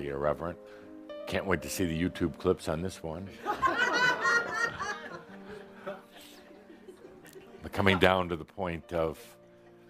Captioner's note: laughter